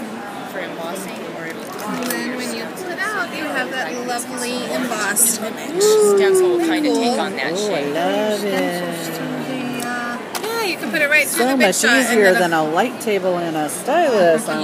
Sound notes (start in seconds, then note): 6.9 ooohs and aaahs